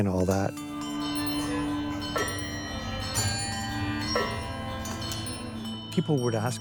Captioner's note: bells ringing